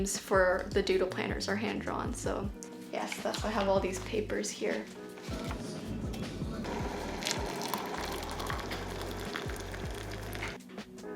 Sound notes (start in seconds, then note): 6.6 water pouring